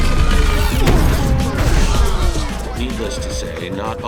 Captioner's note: The Hunk thuds